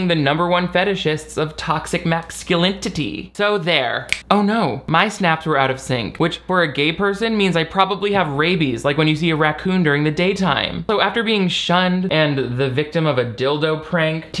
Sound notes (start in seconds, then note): 4.1 snapping